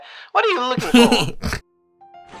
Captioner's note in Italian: sogghigna